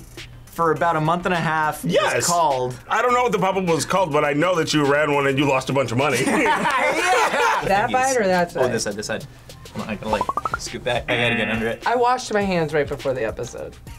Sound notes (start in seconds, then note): 6.2 group laughs; 10.6 buzzer